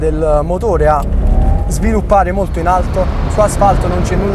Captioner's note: turbo sound